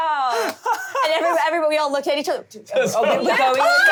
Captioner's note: overlapping chatter